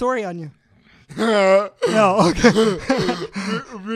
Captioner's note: laughs